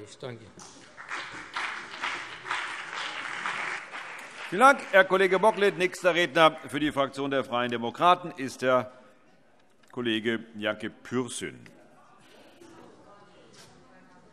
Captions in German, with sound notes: - Ich danke Ihnen für die Aufmerksamkeit. [Beifall BÜNDNIS 90/DIE GRÜNEN und vereinzelt CDU] Vielen Dank, Herr Kollege Bocklet. - Nächster Redner ist der Kollege Yanki Pürsün, Fraktion der Freien Demokraten.